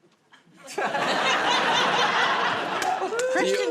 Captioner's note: laughter